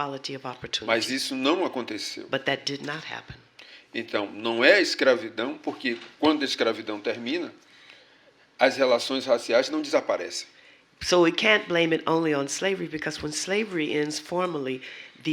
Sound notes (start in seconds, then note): 1.0 speaking portuguese; 7.5 speaking portuguese